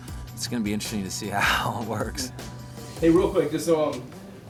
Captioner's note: chuckles